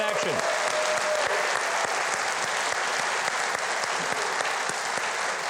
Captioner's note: audience claps and cheers